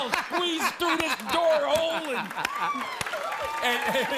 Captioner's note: laughter, cheers, applause